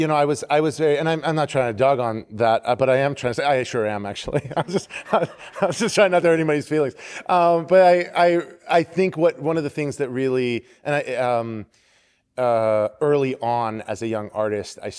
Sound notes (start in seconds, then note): 4.2 laughter